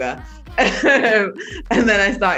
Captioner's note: laughs